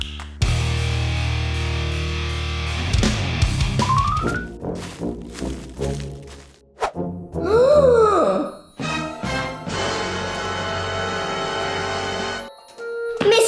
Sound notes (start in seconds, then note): 0.2 snapping; 0.5 heavy metal music; 4.2 spooky music; 7.4 gasping; 8.8 dramatic music